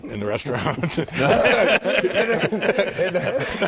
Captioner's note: laughter